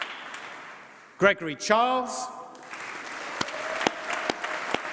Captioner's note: applause